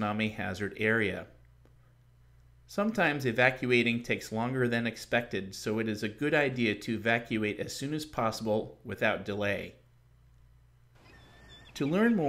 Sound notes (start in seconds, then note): 11.0 seagulls in background